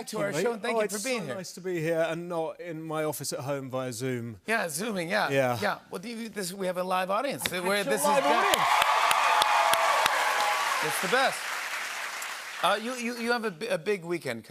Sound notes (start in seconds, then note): 8.0 cheers and applause